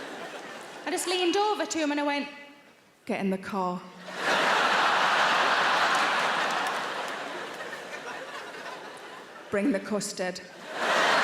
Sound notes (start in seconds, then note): 4.0 audience laughing